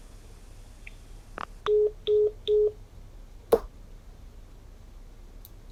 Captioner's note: dial tone